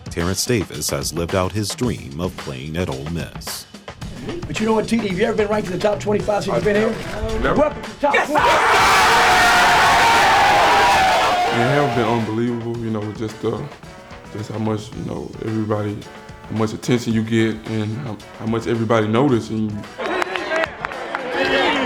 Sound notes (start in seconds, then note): 8.0 cheering